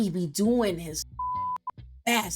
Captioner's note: beep